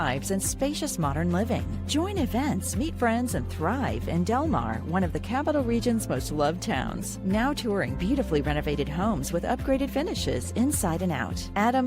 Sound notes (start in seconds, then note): none